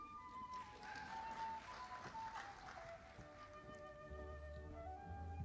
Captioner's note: audience applauding